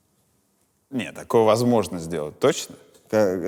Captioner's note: none